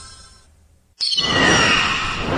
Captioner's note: whoosh